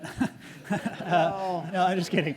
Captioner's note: audience laughs